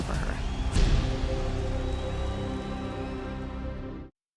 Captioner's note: audience roaring